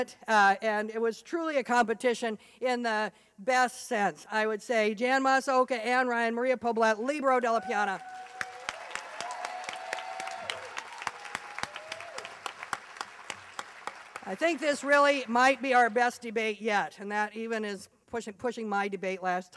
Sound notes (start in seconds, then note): 7.5 applause